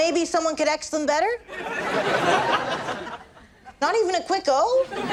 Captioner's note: audience laughs